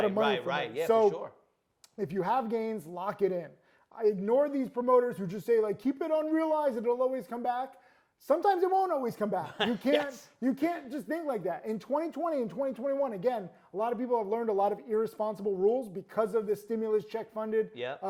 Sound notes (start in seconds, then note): 9.4 laughs